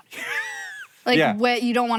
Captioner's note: Hank laughs